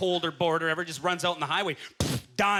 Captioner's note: blows raspberry